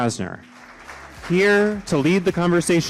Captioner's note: appluase